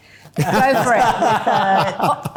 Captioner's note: laughing